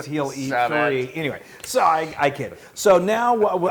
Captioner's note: laugh